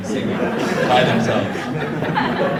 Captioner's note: audience laughs